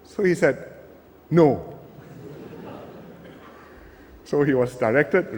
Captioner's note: laughter